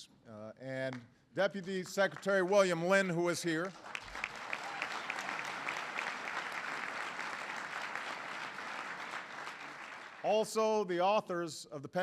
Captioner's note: applause; applause